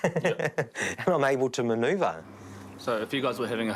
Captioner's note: chuckles